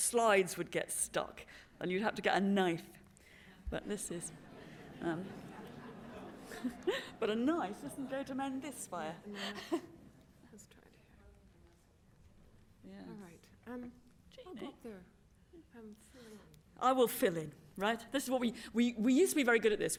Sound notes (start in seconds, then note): 4.2 laughter